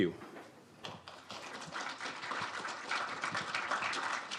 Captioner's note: applause